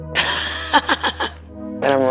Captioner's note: DeMatteo laughs